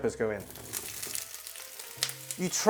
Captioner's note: sizzling sound